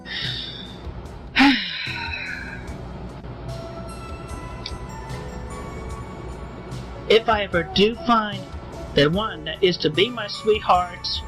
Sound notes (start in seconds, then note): 0.0 deep Breath; 1.3 sigh